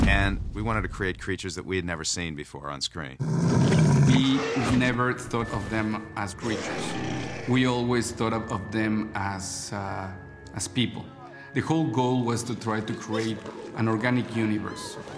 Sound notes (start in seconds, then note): 3.2 growling